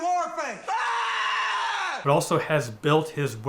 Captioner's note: screaming